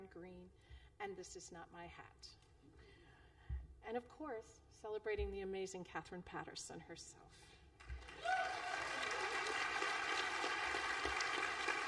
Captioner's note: applause